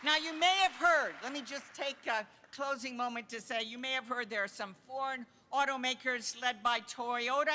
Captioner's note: applause